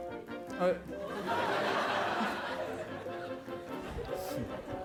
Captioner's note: laughter